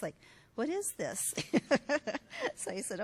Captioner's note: laughs